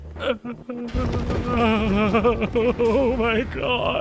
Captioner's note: Skull whimpers